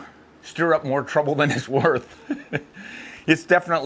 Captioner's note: laughing